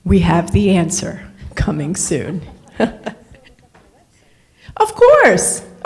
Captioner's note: laughs